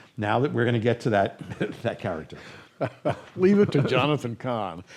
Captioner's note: chuckles